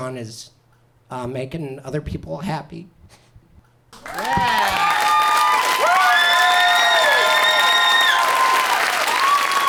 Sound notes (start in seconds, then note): 3.9 audience applauds